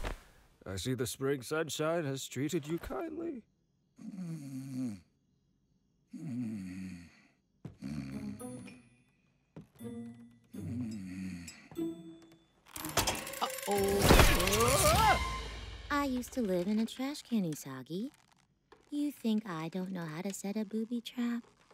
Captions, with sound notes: I see the spring sunshine has treated you kindly. [snoring] -[metal clanks] -Uh-oh! I used to live in a trash can, Usagi. You think I don't know how to set a booby trap?